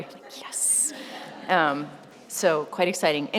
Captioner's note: laughter